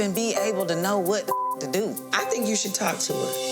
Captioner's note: beep